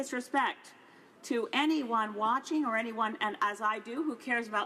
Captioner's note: none